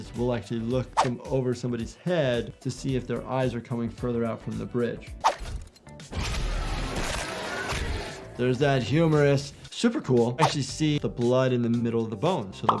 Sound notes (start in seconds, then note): 6.8 blood sloshes; 6.8 bone cracks